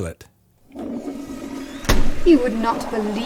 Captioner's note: toilet gurgling